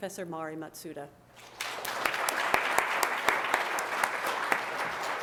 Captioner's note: applause